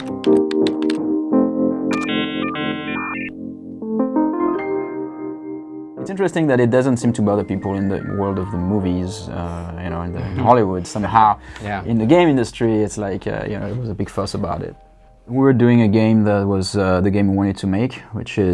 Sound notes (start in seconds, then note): 0.0 keys clicking; 1.8 internet modem connecting